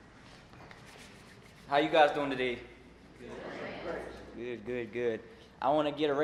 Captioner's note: crowd